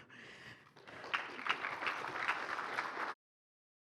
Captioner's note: applause